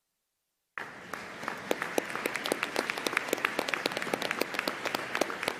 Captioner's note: audience applauding